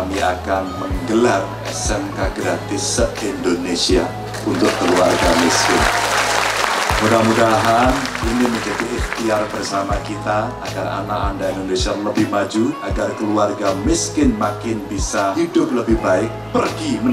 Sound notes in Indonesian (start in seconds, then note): 6.4 tepuk tangan